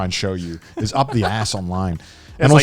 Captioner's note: chuckling